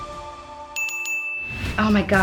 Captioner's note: ding ding ding